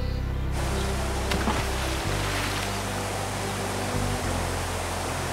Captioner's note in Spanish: salpicaduras de agua